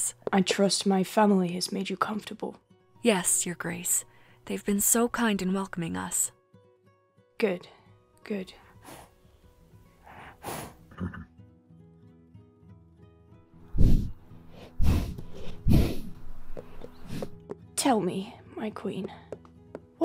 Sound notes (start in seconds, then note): 13.7 deep breathing